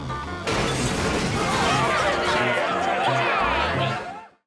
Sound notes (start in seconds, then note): 0.4 crashing; 1.4 screaming